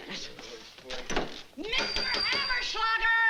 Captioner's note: banging